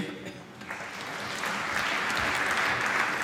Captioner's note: applause